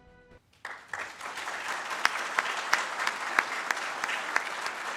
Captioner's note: dramatic music; audience claps